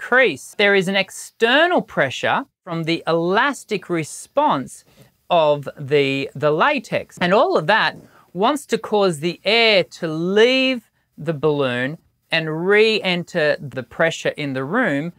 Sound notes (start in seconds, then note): none